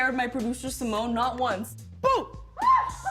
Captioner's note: laughs; screams